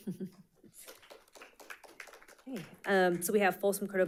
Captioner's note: audience applauding